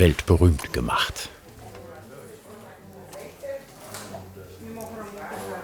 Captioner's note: lively conversation in the background